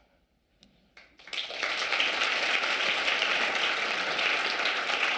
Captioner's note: audience clapping